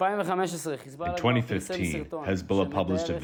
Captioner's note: through translator